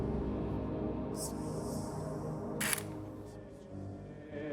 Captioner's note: film clicking